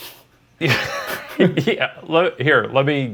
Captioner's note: laughing